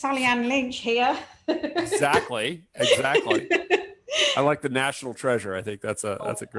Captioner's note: laughs